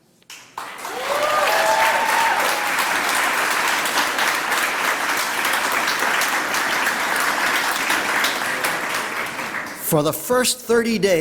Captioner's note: applause